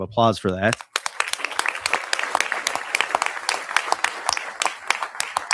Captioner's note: audience applauding